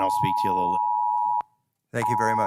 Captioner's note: timer beeps